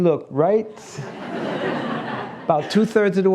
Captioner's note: laughs